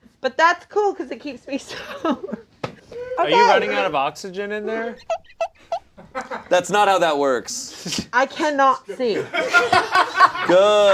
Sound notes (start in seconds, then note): 5.2 glass squeaking; 8.9 all laughing